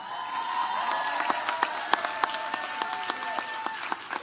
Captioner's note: audience applauds